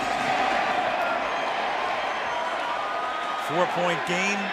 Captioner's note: crowd cheering